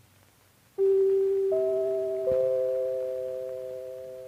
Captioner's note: NBC chimes plays